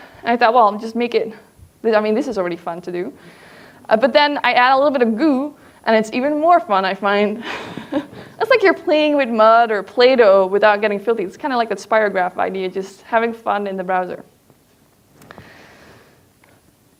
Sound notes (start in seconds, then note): 7.4 laughs